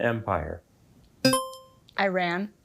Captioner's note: buzzer chimes